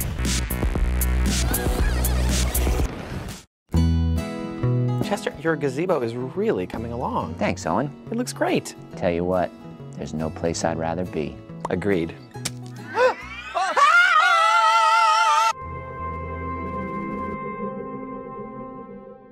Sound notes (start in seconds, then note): 13.4 yelling; 16.0 symphonic music